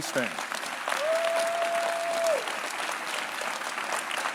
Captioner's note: claps